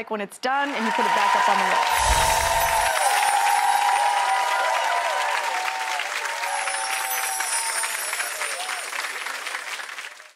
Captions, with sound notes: when it's done and you put it back up on the wall. (audience applauding) (chiming) (audience applauding)